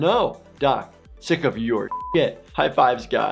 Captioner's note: beep